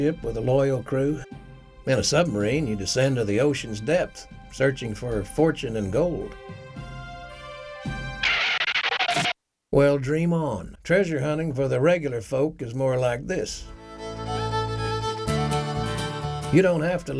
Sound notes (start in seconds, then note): 8.9 tires screeching; 13.6 country music